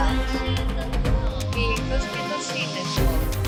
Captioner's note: different woman speaks foreign language